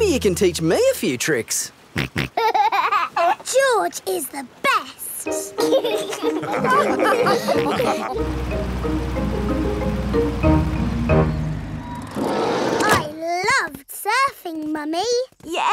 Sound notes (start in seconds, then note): 2.1 snorts and laughs; 5.6 all laugh